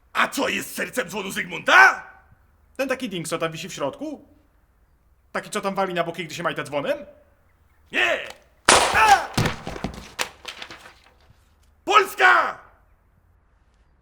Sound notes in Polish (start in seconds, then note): 8.6 strzał; 11.9 krzyk